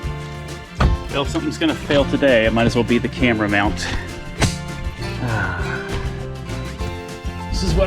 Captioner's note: sigh